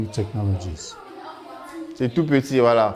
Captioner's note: non-english speech